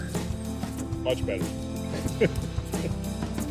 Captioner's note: laughs